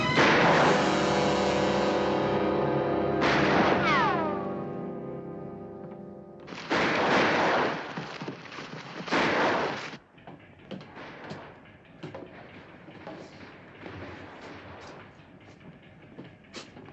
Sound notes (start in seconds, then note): 0.0 gunshot